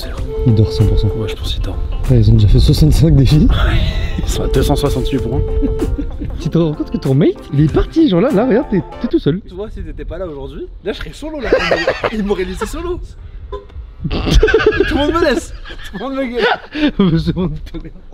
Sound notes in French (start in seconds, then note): 11.4 rire; 14.6 bip voiture